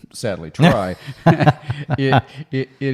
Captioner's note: both laugh